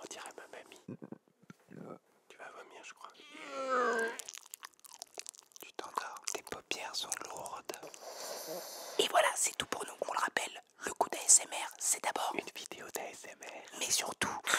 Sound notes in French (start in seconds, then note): 0.0 bruits de bouches; 3.2 vomis, bruits de bouches; 7.9 Ronfle